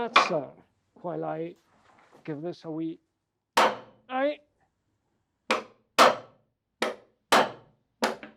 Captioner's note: hammers strike